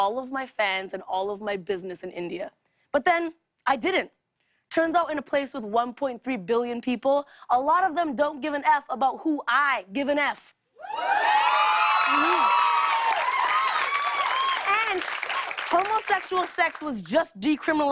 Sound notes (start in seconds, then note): 10.8 cheers and applause